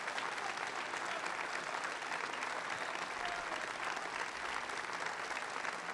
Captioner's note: applause